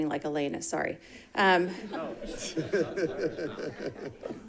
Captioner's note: group laughing